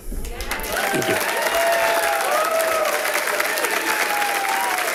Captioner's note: audience applauding